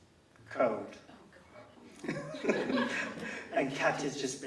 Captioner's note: laughs